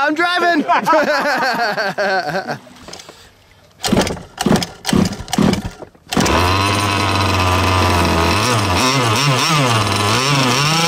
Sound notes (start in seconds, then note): 0.4 laughter; 4.7 engine noises